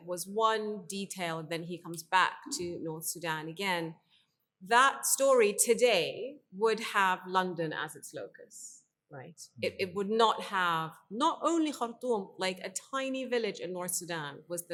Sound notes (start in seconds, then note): 11.0 speaks in foreign language